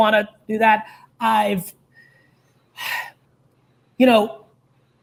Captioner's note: sighs